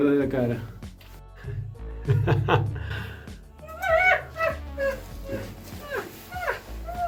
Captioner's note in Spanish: risas